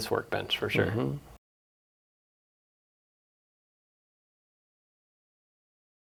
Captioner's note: silence